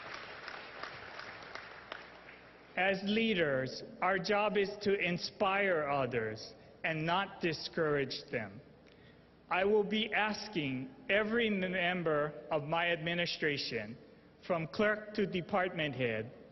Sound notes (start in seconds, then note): 2.2 applause